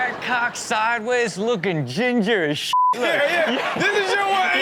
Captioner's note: beep